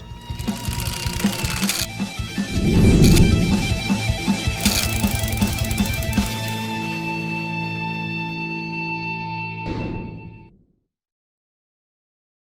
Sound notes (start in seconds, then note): 0.0 energetic rock music; 4.5 gears click